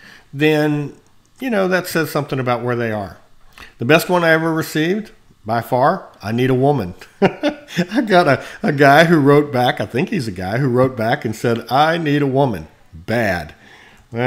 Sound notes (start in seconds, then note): 7.2 laughs